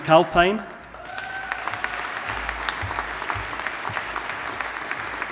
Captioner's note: audience applauding